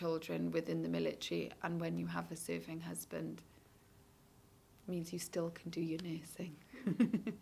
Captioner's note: laughs